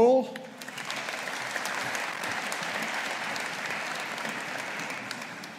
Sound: audience applauding

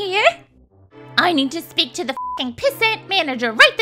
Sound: beep sound

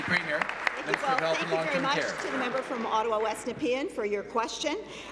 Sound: applause

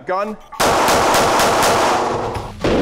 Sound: gunshots; slow motion gunshots

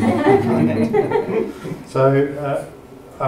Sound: audience laughing softly

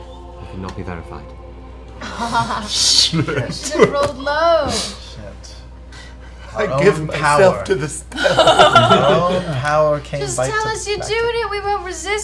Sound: laughs

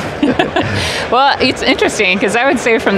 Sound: laughs

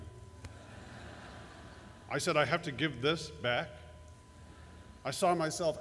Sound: laughter

